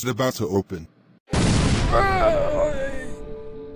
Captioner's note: door bursts open; zombie speak